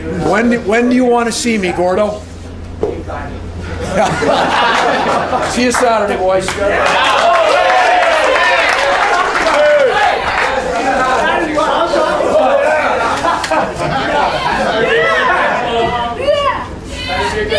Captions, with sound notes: When? When do you want to see me, Gordo? - Gametime. [LAUGHING] - See you Saturday, boys. [APPLAUSE]